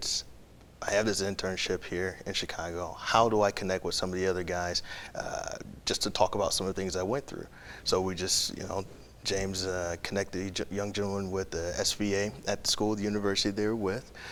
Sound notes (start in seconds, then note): none